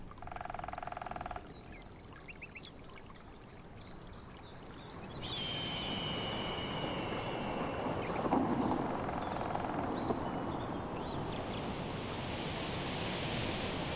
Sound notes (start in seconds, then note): 0.2 woodpecker pecking; 5.3 bird squawking; 8.0 woodpecker pecking; 8.1 thunder rumbling; 11.0 wind whistling